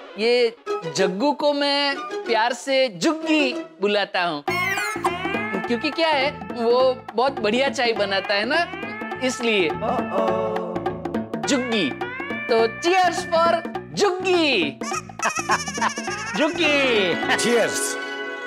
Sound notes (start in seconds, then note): 14.8 laughs